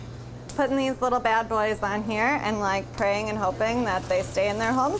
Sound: none

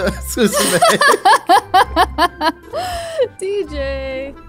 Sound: laughing

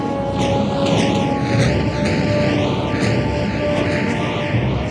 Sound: dramatic music; cannons booming

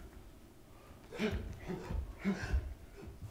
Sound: grunting

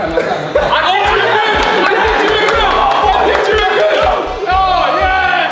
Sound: group cheers and applauds

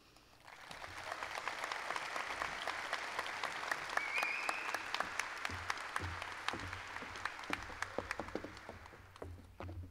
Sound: applause

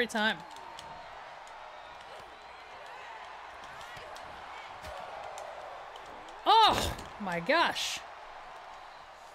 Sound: applause

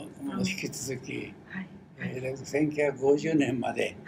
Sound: foreign language

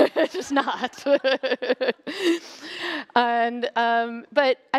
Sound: laughter

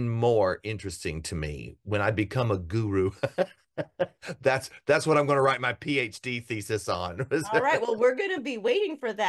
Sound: laugh

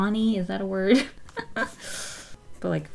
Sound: laughs

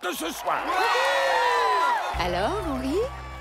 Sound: all cheering

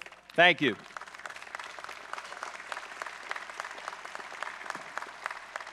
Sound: audience claps

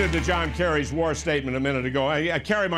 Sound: applause

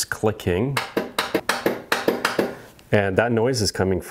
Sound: switch flipping

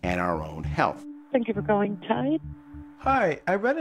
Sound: female on phone; on phone

